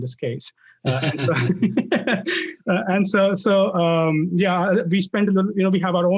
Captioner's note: laugh